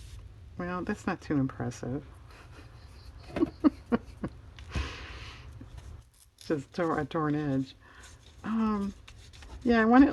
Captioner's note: laughs